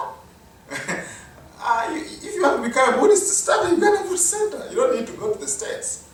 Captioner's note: chuckle